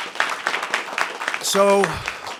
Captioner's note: applause